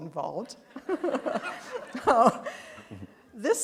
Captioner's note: laughter